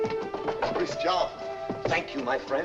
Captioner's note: knocking on door